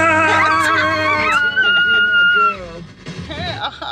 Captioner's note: screaming